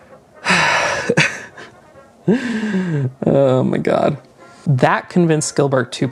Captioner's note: sighs